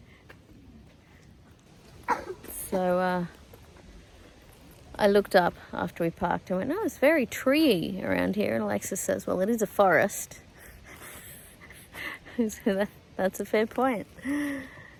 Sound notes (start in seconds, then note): 2.0 coughs; 10.3 wheezy laughter